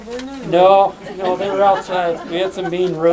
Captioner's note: laughter